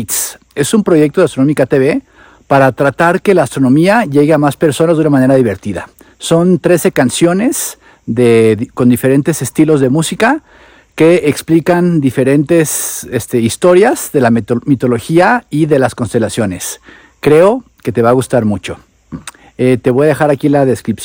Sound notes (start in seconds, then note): 7.7 in Spanish